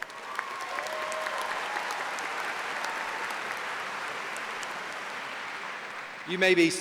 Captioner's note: applause